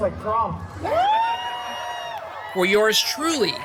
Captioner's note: guests cheering and laughing